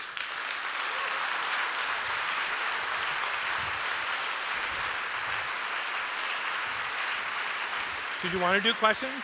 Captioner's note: applause